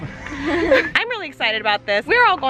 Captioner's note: giggling